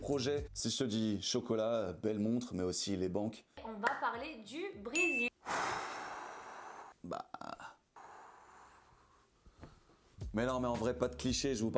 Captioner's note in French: sighs